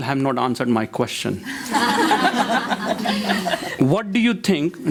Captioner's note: crowd laughs